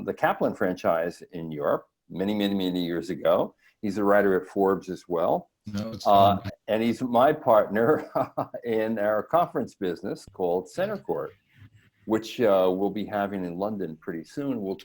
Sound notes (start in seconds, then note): 5.7 audio distorts speech; 7.7 chuckles